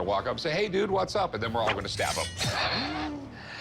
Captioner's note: laughs